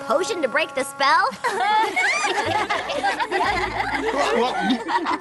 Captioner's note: laughter